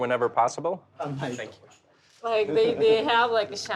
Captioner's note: speaking Japanese